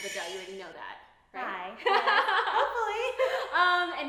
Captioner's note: laughing